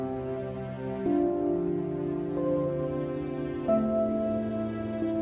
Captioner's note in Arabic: صفير الرياح